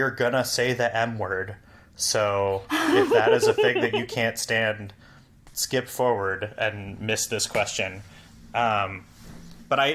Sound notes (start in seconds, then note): 2.7 laughs